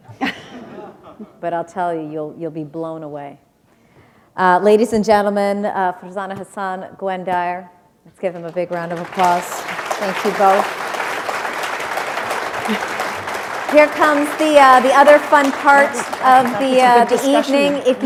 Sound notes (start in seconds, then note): 7.3 applause